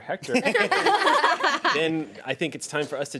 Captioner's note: women laugh